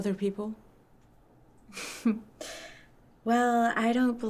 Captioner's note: laughs